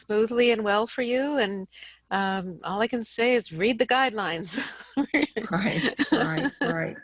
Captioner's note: laughing